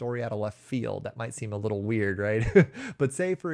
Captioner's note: chuckles